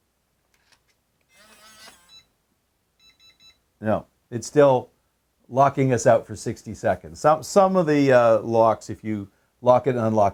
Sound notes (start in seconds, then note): 1.3 powerbolt buzzing